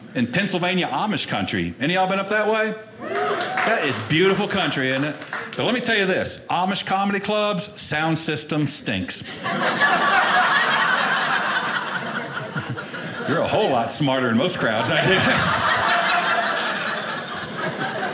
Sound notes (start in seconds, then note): 3.0 audience cheering; 9.2 audience laughing